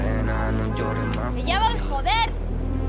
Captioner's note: horn